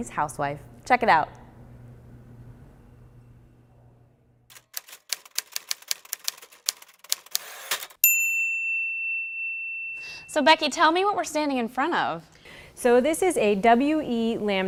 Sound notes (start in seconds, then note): 4.5 typewriter typing; 10.1 bell